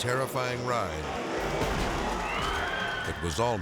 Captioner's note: spectators scream; bike slams